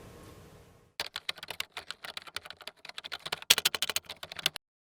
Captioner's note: keyboard clicking